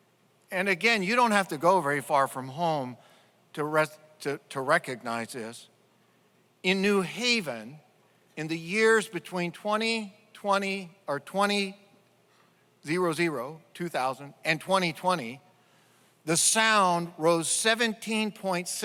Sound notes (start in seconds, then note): none